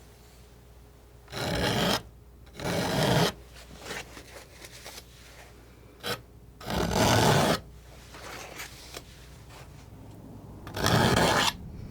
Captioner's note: scraping